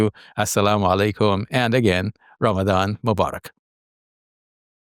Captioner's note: speaks in foreign language